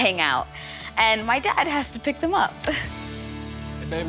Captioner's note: chuckles